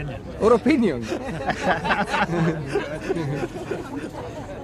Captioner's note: laughter